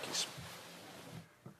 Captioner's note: speaking French